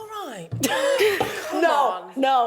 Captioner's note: laughs